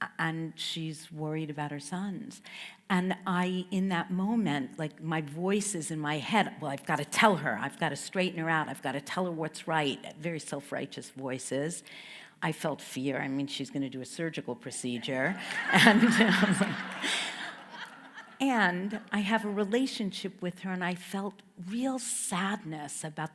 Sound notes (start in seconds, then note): 15.3 everyone laughs